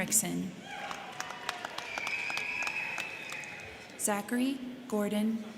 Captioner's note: crowd cheering; crowd clapping